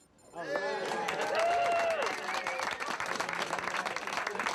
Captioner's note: navigators cheering